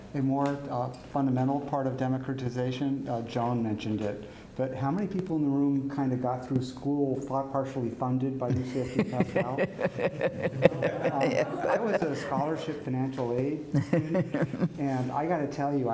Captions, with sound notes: - A more fundamental part of democratization, John mentioned it, but how many people in the room kind of got through school, partially funded by UCSD Pascal? (laughter) - I got a scholarship, financial aid, and I gotta tell you,